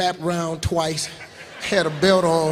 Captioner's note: laughing